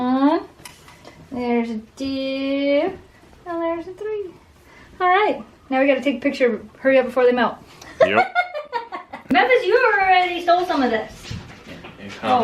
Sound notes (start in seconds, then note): 7.9 laughter